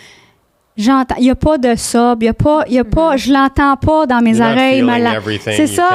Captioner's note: in french